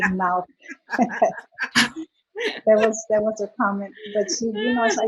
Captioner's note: laughter